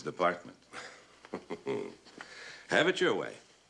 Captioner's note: chuckles